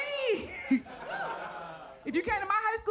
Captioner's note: audience laughs